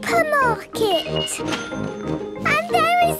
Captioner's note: cash register dinging